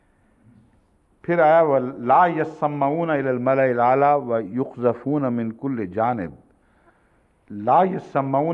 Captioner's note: Arabic